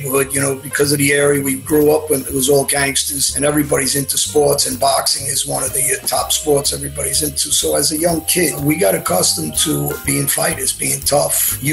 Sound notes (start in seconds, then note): none